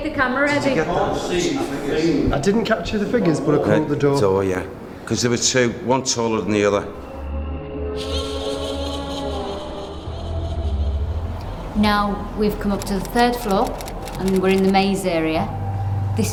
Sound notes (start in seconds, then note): 6.8 creepy music; 7.4 sinister laughing